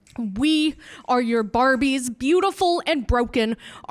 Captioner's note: none